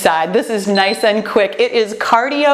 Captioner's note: timer beeps